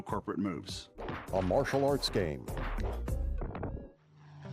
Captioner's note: rapid punch sound effects